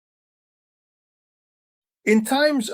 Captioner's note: Arabic; German